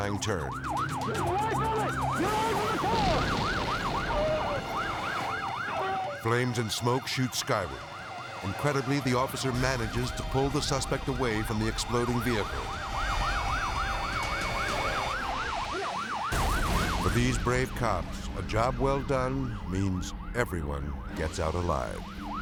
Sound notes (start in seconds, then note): 2.0 explosion booms; 3.9 suspect wails; 12.4 siren wailing; 16.3 explosion booms